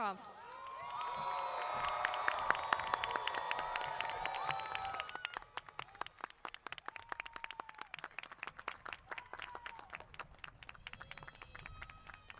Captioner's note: applause & Cheering